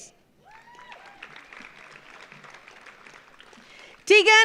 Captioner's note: audience applauds